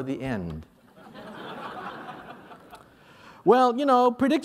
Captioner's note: laughter